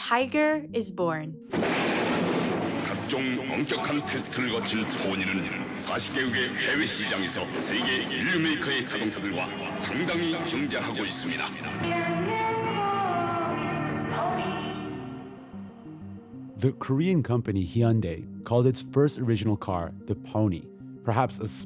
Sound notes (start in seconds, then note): 7.9 as characters, speaking Korean